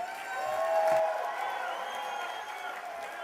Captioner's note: applause